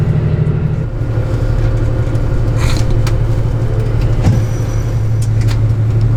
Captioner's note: laughs